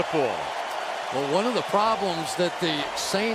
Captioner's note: cheering